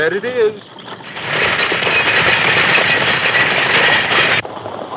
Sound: wagon rattling

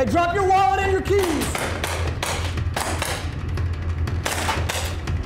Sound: gunshot sound

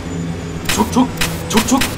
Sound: mimics trains sound

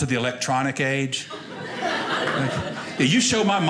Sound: audience laughing

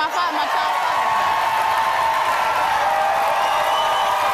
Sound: audience cheers

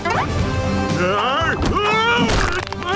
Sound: grunting

